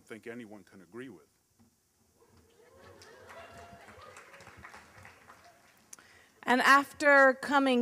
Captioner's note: applause